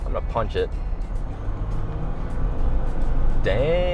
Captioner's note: car engine roaring; upbeat music